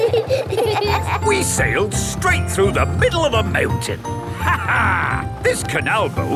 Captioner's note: laughs